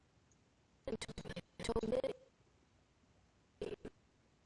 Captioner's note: audio skipping